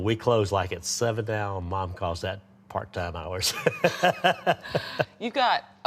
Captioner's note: laughs